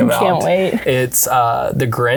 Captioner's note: laughs